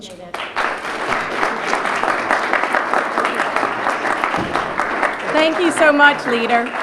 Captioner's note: applause